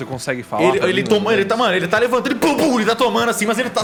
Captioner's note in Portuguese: pow